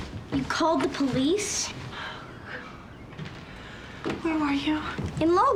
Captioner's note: sighs